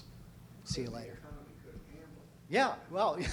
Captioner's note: voiceover